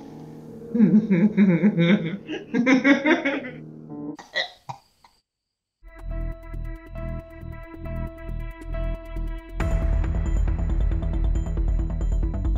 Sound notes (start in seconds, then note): 0.8 evil laughter; 4.2 coughs